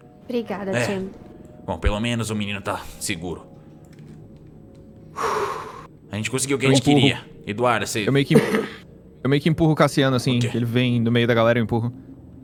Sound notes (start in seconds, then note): 5.1 sighs